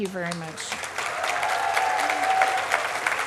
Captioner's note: cheering, applause